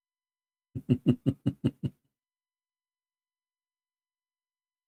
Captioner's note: Ketawa